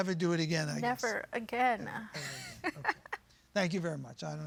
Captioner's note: laughing